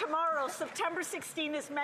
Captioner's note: some Applause